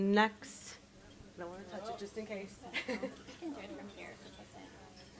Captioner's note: chuckles